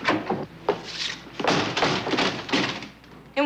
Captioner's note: door slams